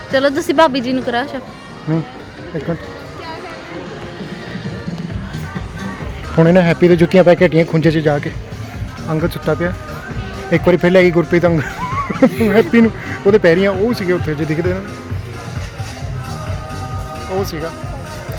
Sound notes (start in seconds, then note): 11.4 laugh